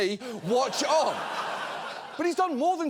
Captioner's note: audience laughs